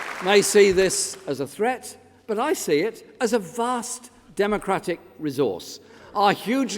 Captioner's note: applause